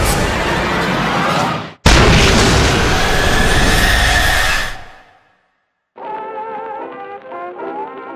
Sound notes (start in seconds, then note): 1.8 exploding